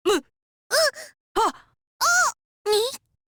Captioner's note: gasp